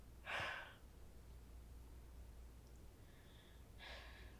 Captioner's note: Casey sighing